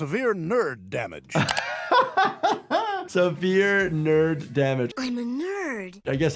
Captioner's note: laughs